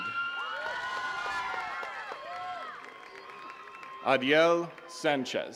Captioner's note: attendees cheering and clapping